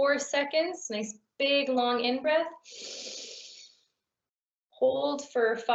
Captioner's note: inhaling deeply